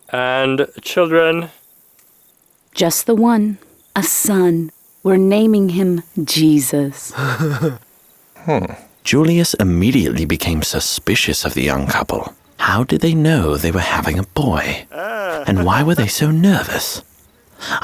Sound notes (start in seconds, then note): 7.1 Joseph chuckling; 8.4 Julius grunting suspiciously